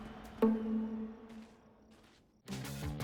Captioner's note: footsteps